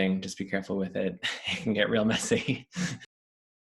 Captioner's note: laughs